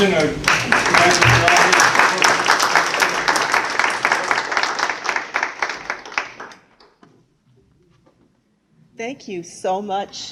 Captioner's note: applause